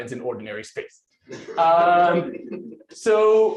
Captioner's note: laughter